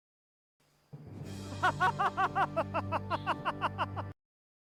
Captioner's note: awkward villainous laughter